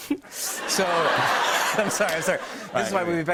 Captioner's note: laughter; giggles